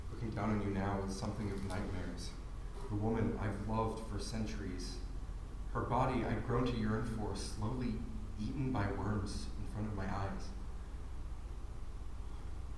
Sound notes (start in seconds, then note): none